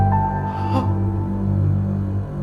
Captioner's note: gasps